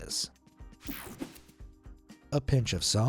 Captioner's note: screen whooshing